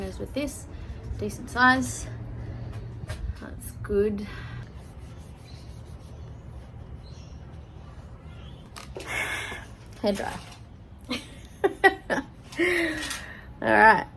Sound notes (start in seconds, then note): 9.0 sighs; 11.4 laughs